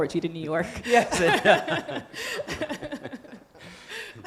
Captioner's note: group laughing